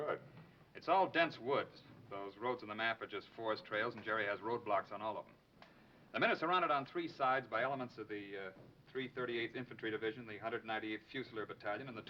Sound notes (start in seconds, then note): none